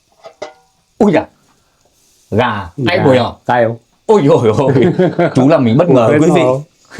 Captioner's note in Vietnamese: tiếng cười